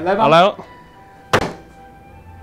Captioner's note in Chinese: 啪！